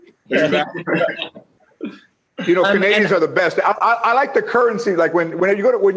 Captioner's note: laughter